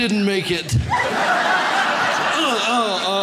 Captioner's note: audience laughs